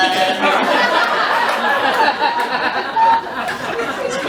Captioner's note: laughter